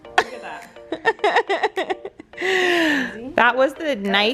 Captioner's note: laughing